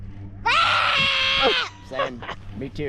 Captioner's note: screaming